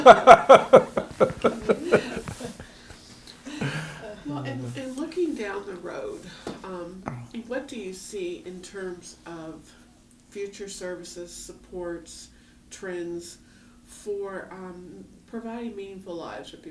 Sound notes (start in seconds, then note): 0.0 laughter